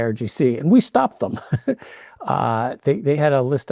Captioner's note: chuckles